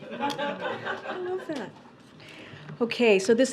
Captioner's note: laughter